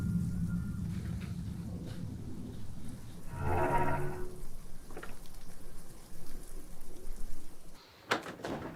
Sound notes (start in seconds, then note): 3.2 gate creaks